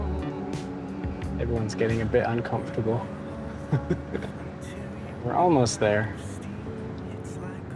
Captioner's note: laughs